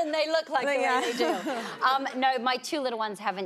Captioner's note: laughs